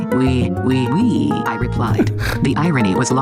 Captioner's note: MaleV chortles